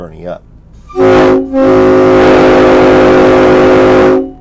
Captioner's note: coach horns